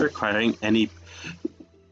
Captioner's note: breaths